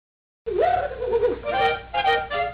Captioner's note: silly laughing; playful music